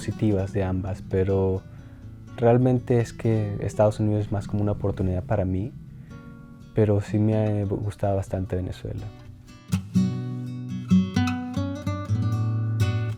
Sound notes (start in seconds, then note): 7.6 continues speaking Spanish